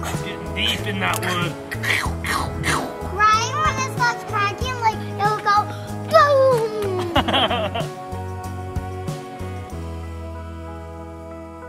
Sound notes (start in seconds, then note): 0.6 imitating wood crackling; 6.9 laughing; 8.3 mellow tempo playing